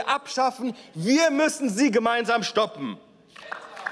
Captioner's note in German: Beifall